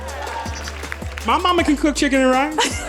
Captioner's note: audience cheering